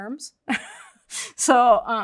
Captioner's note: chuckles